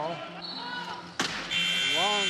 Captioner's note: buzzer